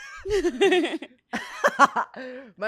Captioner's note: laughs